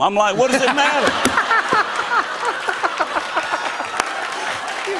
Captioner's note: laughter and applause